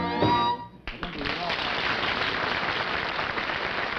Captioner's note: applause